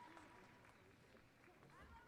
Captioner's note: applause